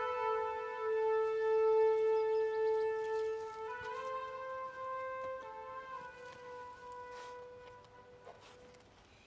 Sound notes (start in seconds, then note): 1.3 birds chirping